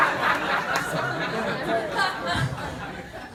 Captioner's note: laughter